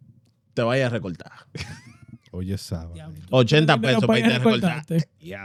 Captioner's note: speaking In Foreign Language